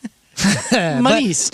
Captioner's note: laughing